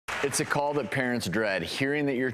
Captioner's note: applause